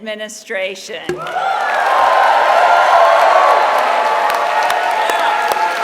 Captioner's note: applause